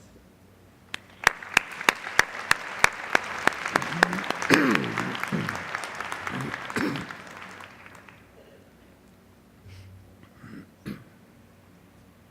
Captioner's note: applause